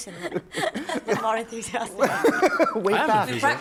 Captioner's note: laughter